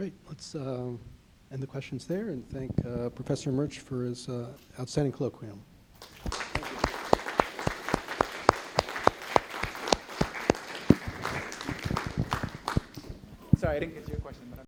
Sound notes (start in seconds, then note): 6.0 applause